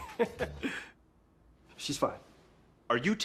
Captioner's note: chuckles